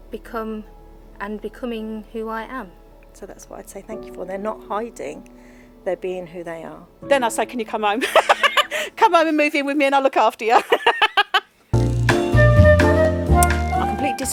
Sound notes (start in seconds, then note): 8.0 loud laughing; 10.6 loud laughing; 11.7 classic music